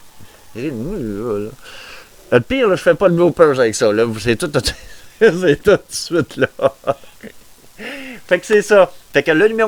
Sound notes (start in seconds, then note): 6.1 laughter